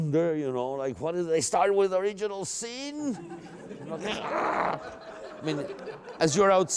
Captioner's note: laughter